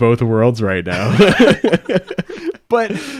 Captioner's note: podcasters laughing